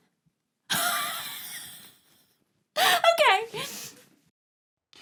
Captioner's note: laughs